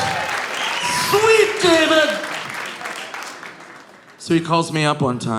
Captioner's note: audience cheering; audience applauding